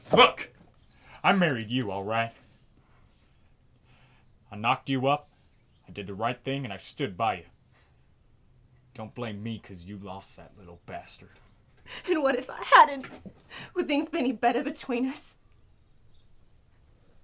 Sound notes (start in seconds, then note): none